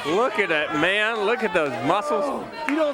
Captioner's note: crowd cheering